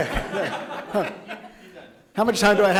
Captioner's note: people laughing